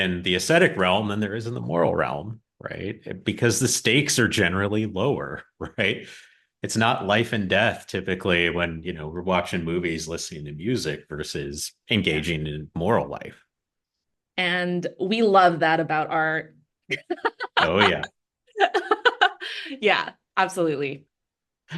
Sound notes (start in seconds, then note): 17.0 laughs